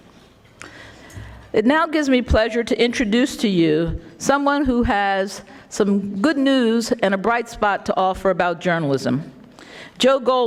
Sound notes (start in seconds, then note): none